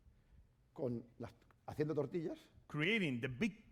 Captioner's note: speaking spanish